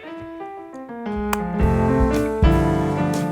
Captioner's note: lip smack